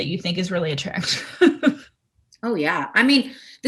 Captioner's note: giggling